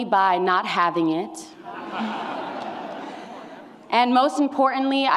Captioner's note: laughter